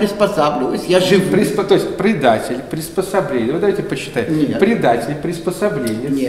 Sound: sarcasm

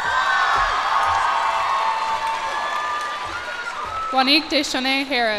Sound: cheers and applause

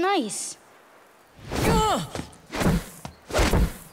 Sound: grunting

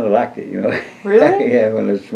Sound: laughs

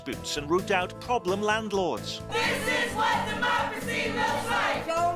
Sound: crowd

